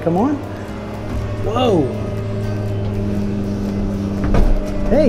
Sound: flight simulator engine whirring

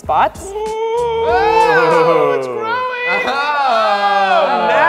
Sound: cheering

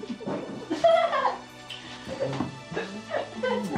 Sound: people laughing; lively music

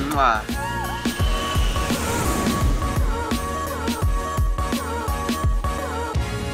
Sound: upbeat music; air whooshing

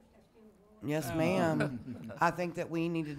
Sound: some chuckling

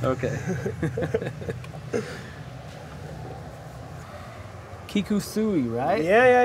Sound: laugh

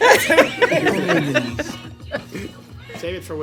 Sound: chuckles

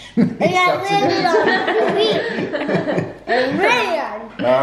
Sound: laughing

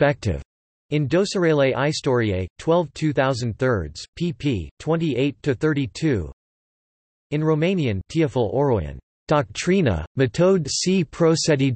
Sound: in Romanian

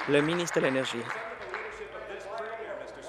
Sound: applause

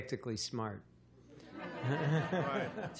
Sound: laughter

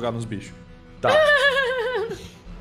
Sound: laughs

